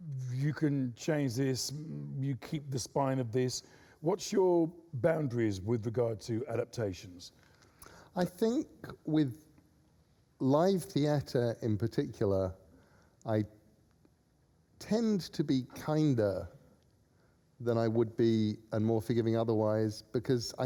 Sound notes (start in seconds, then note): none